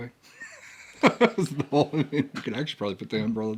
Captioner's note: laughs